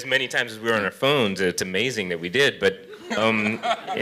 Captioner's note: laughter